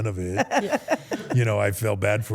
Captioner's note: Steph laughs